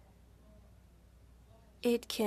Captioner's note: speaking French